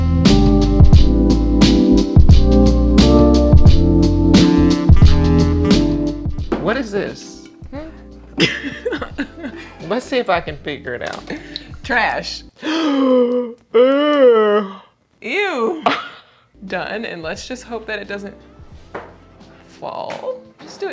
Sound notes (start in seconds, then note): 8.3 laughing; 12.6 gasping